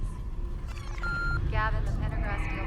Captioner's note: beeping; voiceover